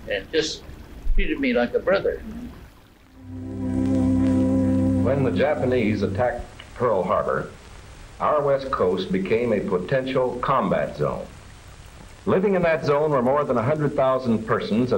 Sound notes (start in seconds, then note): 3.1 soft music begins; 3.5 water flowing